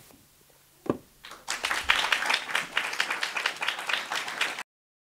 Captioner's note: audience applauding